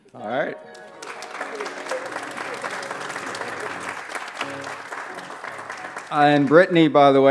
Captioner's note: applause